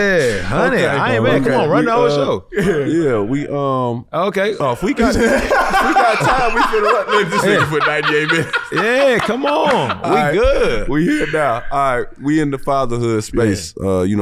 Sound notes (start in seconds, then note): 4.8 laughs